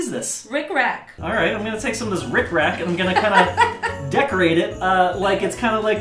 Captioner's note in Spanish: se ríe